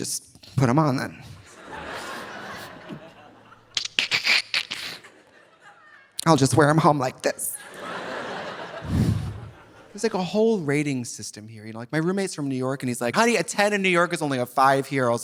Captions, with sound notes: "Well, let me just put 'em on, then. (audience laughing) (imitates seams popping) "I'll just wear 'em home like this." (audience laughing) There's a whole rating system here. My roommate's from New York and he's like, "Honey, a 10 in New York is only a five here."